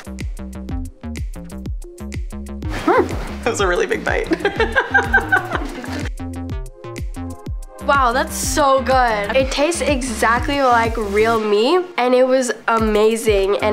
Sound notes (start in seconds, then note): 0.1 bouncy music; 4.2 laughs